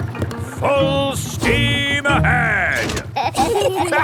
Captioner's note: lever clangs; kids and captain dog laughing